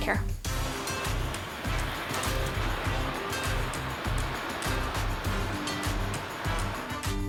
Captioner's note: gentle music; ocean rustling